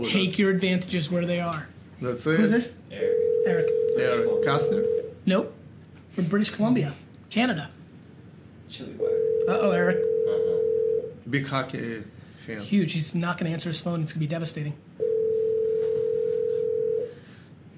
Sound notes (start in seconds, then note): 9.0 phone ringing; 15.0 phone ringing